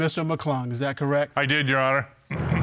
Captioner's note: clears throat